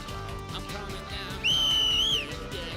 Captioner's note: loud whistle